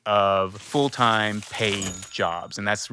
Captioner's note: paper rustling; cash register ringing